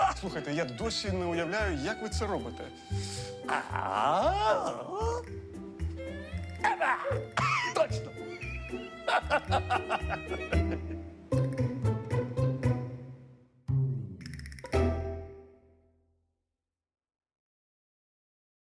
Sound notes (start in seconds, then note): 9.0 laughs